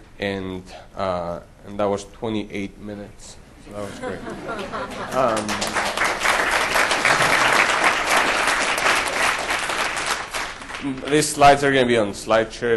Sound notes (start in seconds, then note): 3.7 audience laughter; 6.5 audience applause